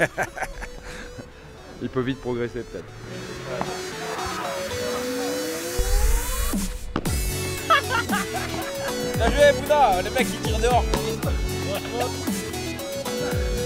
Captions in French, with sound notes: Il peut vite progresser peut-être. *rires* Bien joué Bouna ! Le mec il tire dehors frère !